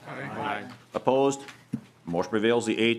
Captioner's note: chorus of ayes